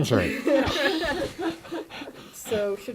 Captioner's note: laughter